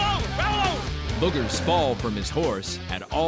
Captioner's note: shouting